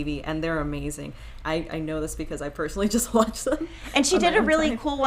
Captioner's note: chuckles